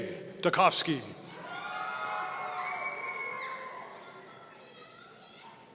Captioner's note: audience cheering